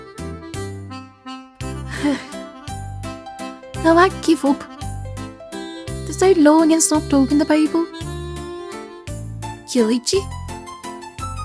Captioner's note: sigh